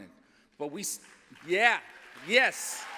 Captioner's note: applause